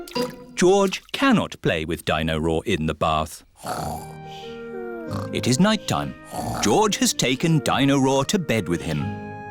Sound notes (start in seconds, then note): 5.0 snoring